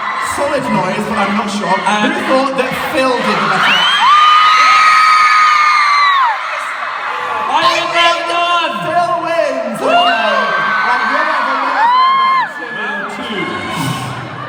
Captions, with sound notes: Solid noise but I'm not sure. Who thought that Phil did the better accent? *cheers* I won round one! Phil wins. WOOO. Okay round 2